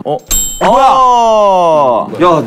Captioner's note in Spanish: Sorprendido